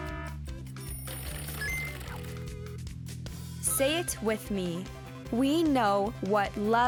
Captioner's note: alarm blaring; item beeps; alarm ringing; item beeps